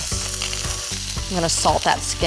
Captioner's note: sizzling